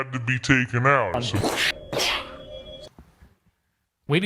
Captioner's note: distorted; imitating Explosions